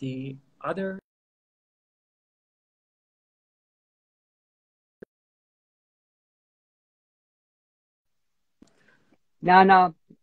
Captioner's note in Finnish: No audio